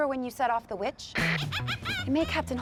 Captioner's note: witch cackles